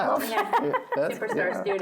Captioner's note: laughs